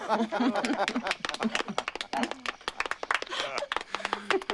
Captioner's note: laughter and applause